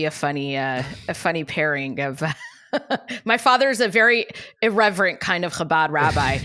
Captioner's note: laughs